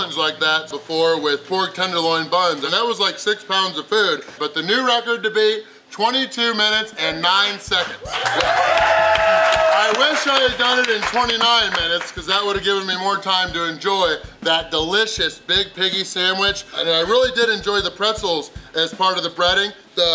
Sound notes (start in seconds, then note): 7.7 crowd cheering; 7.8 crowd applauding